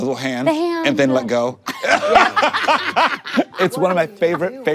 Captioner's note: everyone laughs